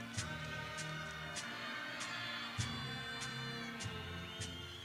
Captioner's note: people cheering